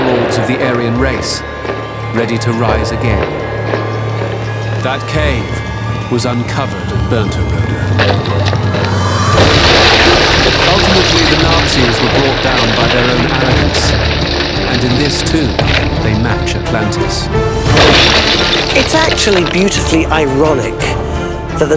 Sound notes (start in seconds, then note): 3.6 suspenseful music; 8.3 suspenseful music; 9.6 explosion booms; 17.6 statue clatters; 17.7 suspenseful music